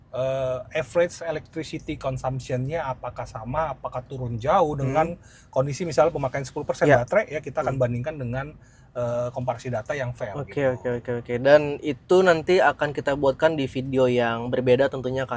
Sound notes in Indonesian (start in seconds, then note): 5.2 berdehem